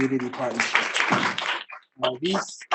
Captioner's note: audience applauding